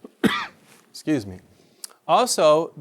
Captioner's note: coughs